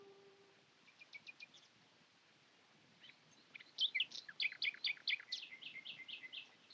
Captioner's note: birds chirping